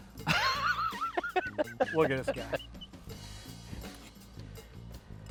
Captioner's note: laughing